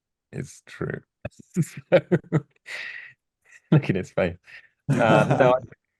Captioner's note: laughs